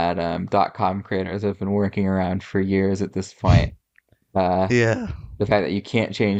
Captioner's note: laughs